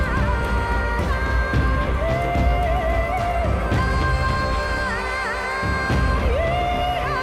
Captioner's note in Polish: Aplauz